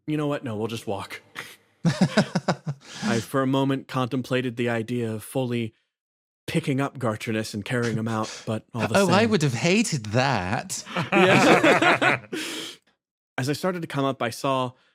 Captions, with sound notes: You know what, no we'll just walk [Chuckles] I for a moment contemplated the idea of fully Picking up Gartrinus and carrying him out but -Oh I would have hated that. [Laugh] As I started to come up I saw